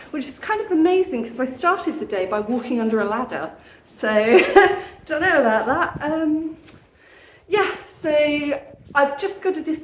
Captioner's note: nervous laugh